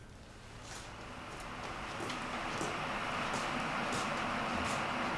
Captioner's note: electric kettle rumbling